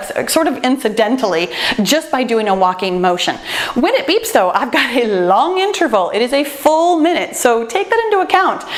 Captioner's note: none